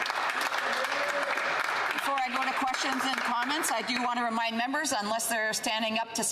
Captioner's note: some Applause